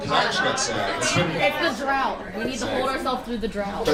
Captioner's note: audience cacophony